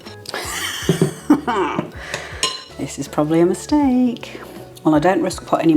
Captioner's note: laugh